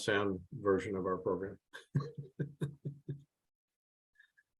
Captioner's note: chuckles